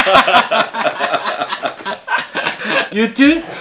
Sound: laughter

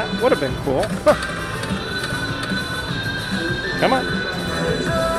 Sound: laughs

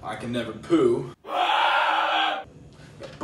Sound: screams

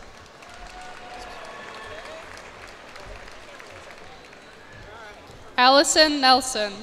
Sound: cheers and applause

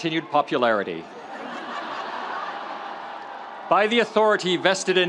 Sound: audience laughs

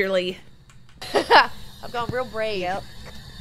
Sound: laugh

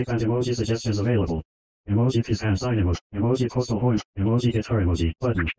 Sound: voiceover speaking

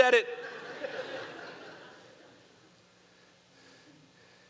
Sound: audience laughing

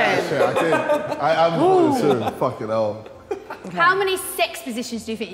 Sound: Sidemen laughing

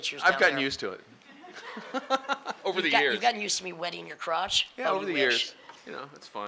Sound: laughing

